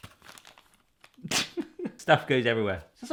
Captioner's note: crinkles; laughs